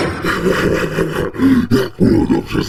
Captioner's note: laugh